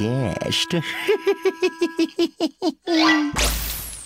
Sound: laugh

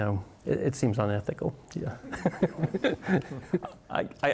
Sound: laughs

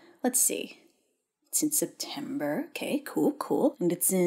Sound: none

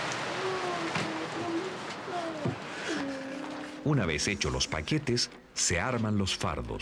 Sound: rain

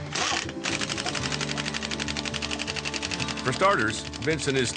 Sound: drill sound

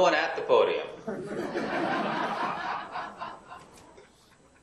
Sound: laughing

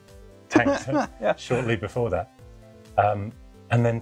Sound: laughing

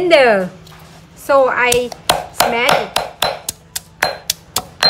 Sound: pound

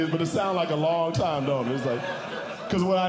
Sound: audience Laughing

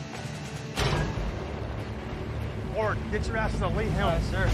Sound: door opening

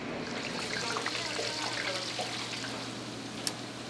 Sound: food sizzling

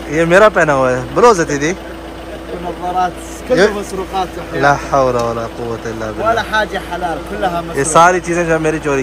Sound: Arabic

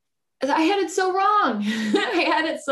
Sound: laughs

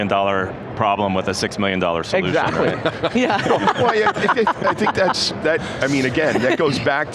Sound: all laughing

